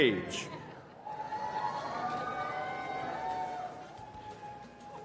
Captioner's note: cheering